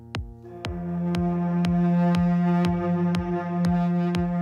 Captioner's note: low pitch sound